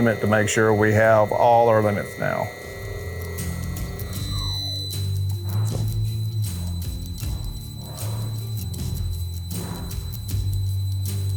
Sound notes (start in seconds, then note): 3.0 motor whirring; 5.5 upbeat music continues